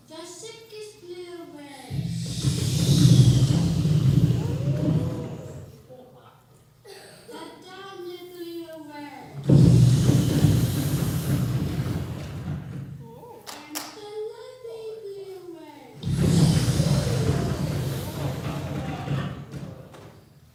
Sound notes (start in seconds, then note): 1.9 whooshing sound; 9.4 whooshing sound; 16.0 whooshing sound